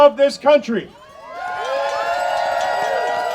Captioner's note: audience cheering